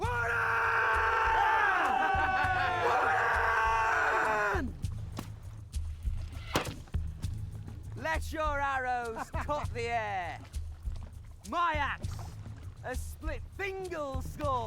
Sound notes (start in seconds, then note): 0.0 men scream; 6.4 arrow thuds